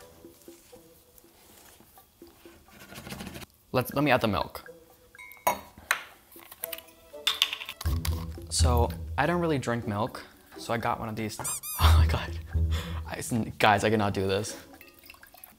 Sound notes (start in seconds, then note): 0.0 sneaky music; 2.9 bowl shakes; 7.8 sneaky music; 11.4 rubber duck squeaks